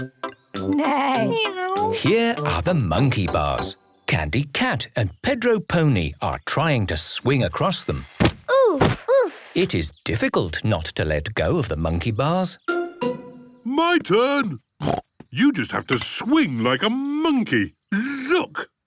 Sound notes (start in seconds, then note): 14.8 snorts